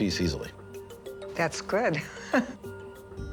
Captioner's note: laughs